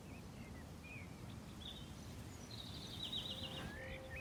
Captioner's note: birds chirping